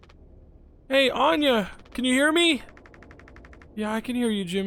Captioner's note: in Daisuke's voice